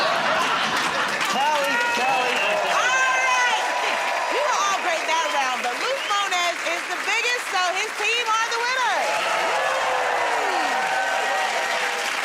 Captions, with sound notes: [ Laughter ] -All right! You were all great that round, but Luke Mones is the biggest, so his team are the winners. [ Cheers and applause ]